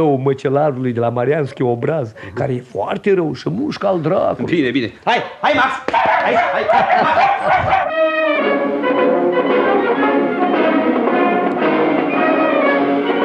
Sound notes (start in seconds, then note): 5.8 the puppy barks